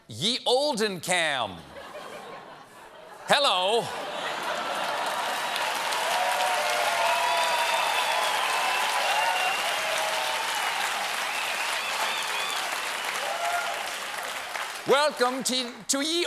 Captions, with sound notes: SO, CBS VIEWERS, JOIN ME AT "YE OLDEN CAM." HELLO. ( CHEERS AND APPLAUSE ) WELCOME TO YE OLDEN CAM, BROUGHT